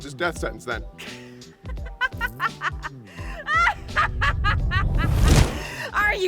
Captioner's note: laughter from the trees